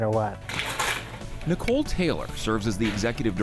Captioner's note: paper tears